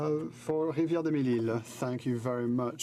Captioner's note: speaking in french